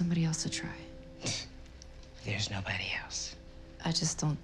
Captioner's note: scoffs